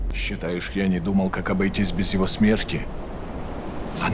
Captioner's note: speaking russian